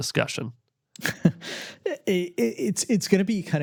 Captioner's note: laughs